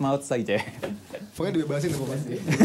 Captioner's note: laughs